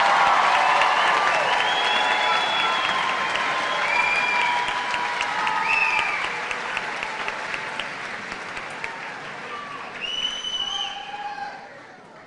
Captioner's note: cheers and applause